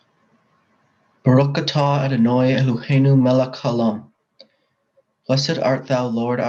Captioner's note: speaking in foreign language